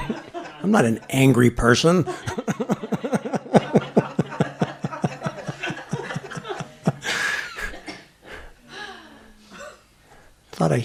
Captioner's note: laughter